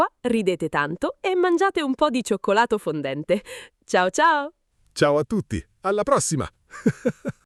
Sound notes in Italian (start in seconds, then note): 6.7 risate